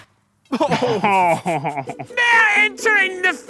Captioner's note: laughing